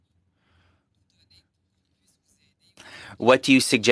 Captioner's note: speaking French